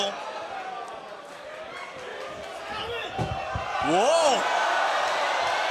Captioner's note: crowd chatter